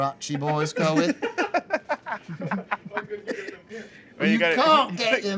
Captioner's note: laughter